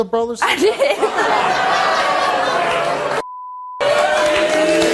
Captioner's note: audience laughs